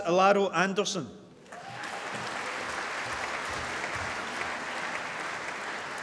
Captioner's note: applause